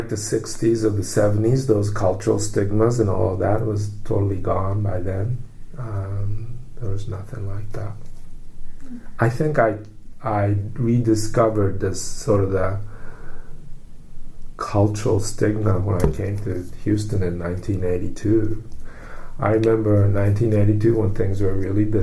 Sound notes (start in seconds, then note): 6.3 quietly